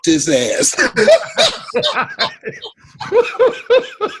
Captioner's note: both laughing